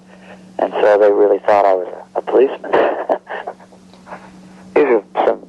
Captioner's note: laughing